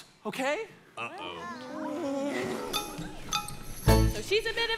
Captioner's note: trolls groaning